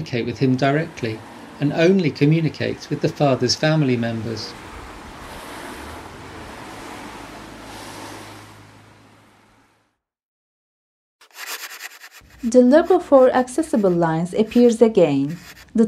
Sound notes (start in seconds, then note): 5.6 the street ambience fades out; 11.2 the sound of a pencil drawing on paper